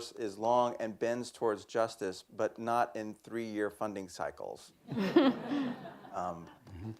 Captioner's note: laughter